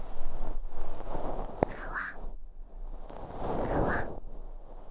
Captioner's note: soft fluffy sounds